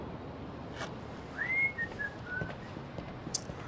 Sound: whistling

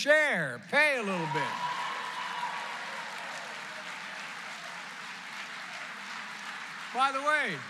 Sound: applause

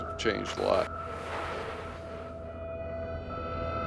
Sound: white Noise

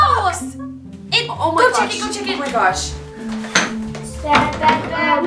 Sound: overlapping exclamations

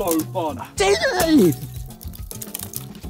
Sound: groaning

